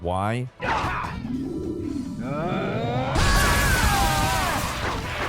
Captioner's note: character grunting